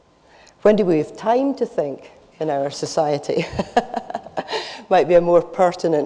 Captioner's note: laughs